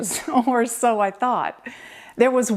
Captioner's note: chuckles